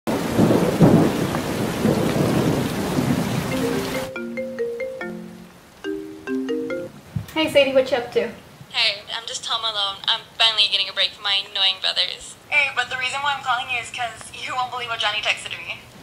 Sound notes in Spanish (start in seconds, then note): 0.1 Truenos; 3.5 Tono de llamada